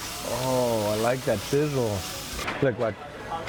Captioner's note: food sizzling